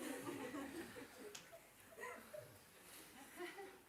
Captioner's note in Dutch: gelach